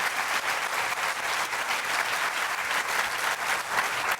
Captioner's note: applause